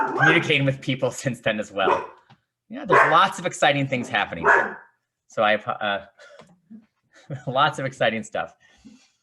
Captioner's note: dog barking